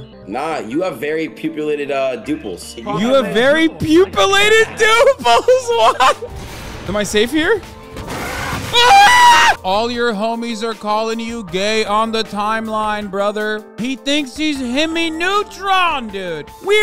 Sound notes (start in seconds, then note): 8.1 Necromorph roars as it tries to breach the elevator; 8.1 girly shriek